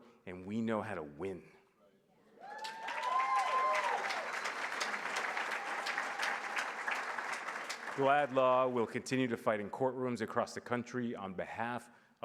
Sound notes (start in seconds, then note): 2.4 applause